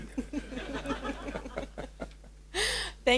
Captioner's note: audience laughs